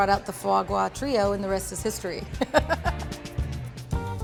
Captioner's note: laughs